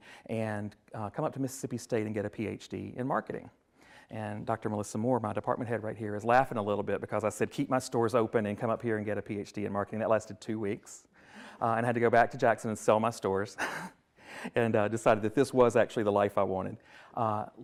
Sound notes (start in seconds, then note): 13.5 chuckles